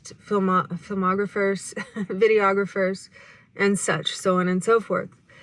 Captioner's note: chuckles